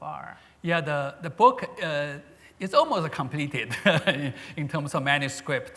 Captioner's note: laughs